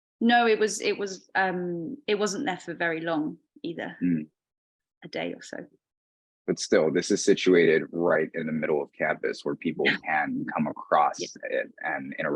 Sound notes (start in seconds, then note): 9.4 chuckling